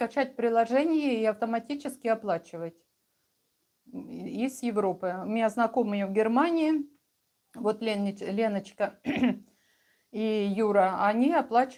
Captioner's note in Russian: откашливается